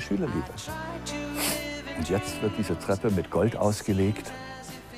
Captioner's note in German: schnieft